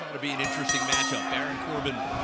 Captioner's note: bell ringing